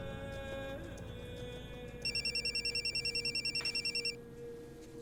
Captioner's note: phone ringing